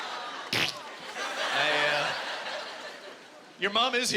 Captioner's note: making squirting sound